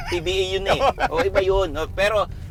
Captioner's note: laughs